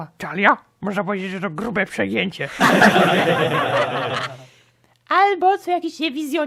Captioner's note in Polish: śmiech na sali